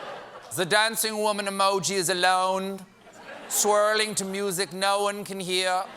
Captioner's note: werner herzog voice